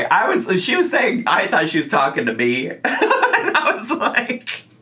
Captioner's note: laughs